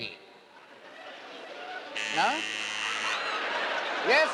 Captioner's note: buzzer buzzes